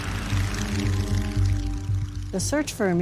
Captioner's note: plane propeller whirring